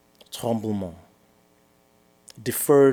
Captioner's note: french